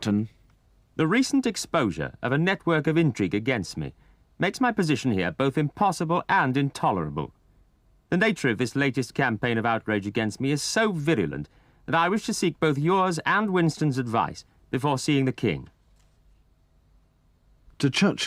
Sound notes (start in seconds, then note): 11.7 voiceover